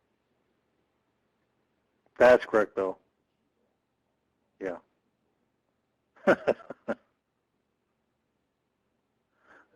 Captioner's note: laughing